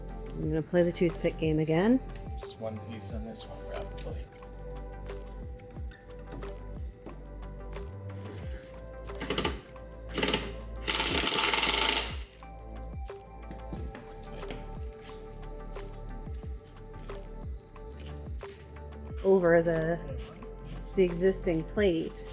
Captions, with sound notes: We're gonna play the toothpick game again. Just one piece on this one probably (drill whirring) (upbeat music) Over the existing plate.